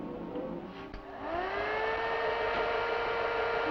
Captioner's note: whirring